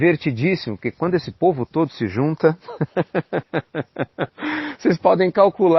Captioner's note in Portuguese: risos